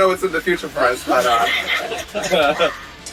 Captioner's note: laughing